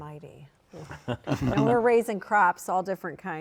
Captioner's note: laughs